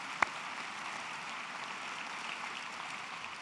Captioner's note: applause